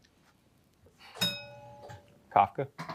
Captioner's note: bell dings